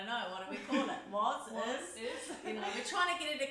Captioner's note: laughs